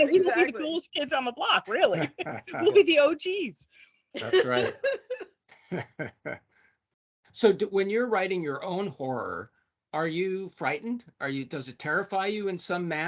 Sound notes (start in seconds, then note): 4.2 laughing